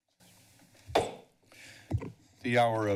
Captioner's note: gavel tap